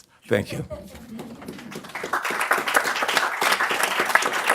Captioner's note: applause